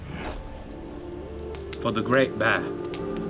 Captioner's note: fire crackling; gentle music